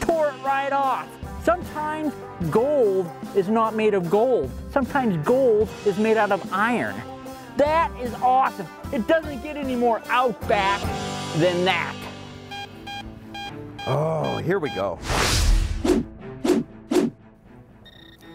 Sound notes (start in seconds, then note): 13.2 beeping; 15.5 intense music